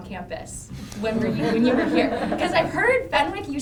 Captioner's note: group laughing